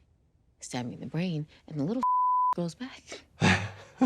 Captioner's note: beep; laughing